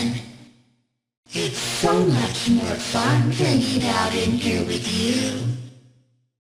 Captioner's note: staticky voice; staticky voice